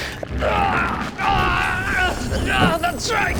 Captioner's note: rather revealing death throws begin